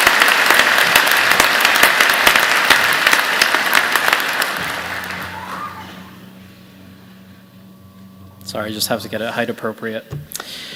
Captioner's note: applause